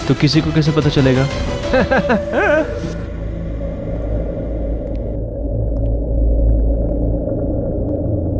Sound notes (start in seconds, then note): 1.6 Giggling